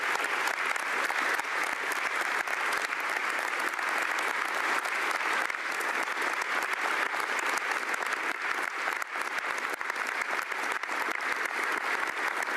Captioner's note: applause